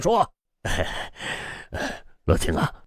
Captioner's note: sigh